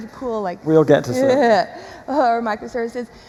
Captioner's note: chuckles